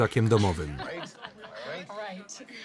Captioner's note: laughing